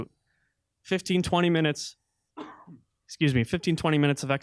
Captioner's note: coughing